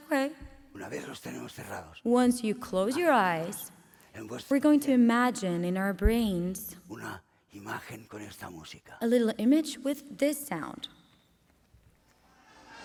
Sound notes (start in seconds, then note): 1.3 speaking spanish